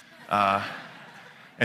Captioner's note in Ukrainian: Сміх